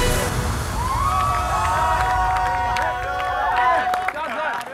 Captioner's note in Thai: เสียงโห่ร้องดีใจและปรบมือ